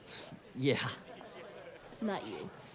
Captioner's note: chuckles